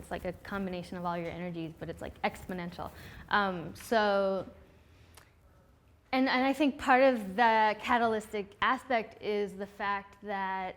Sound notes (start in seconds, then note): none